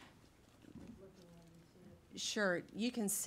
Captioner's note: faint talking in background